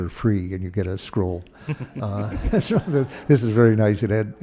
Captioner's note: laughter